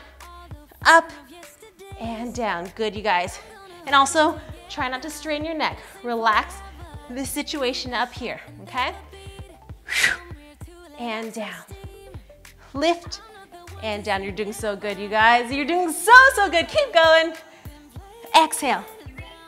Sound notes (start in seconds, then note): 9.8 breathing out